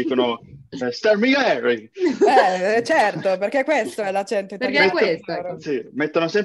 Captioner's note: strong fake italian accent